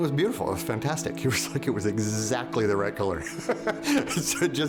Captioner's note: laughs